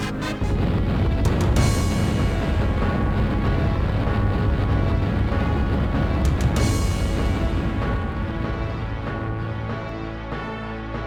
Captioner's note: fire and explosions